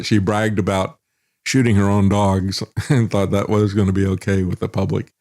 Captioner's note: laughs